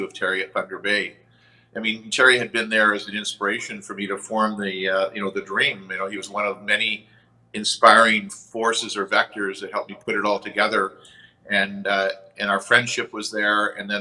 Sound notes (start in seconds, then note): none